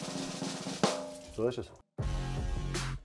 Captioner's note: snare drum rolling; water trickling; heavy rhythmic music